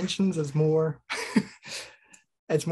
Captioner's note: laughs